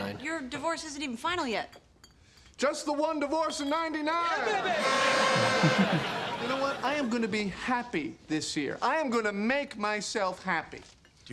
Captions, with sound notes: - But your divorce isn't even final yet. - Just the one divorce in '99. (horn toots) (audience laughs) You know what? I am gonna be happy this year. I am gonna make myself happy.